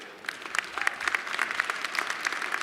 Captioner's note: cheers and applause